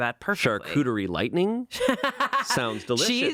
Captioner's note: laughing